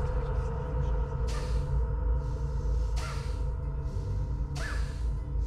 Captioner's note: Bjorn breathes sharply